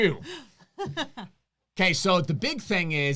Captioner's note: laughs